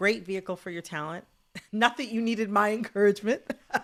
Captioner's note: laughter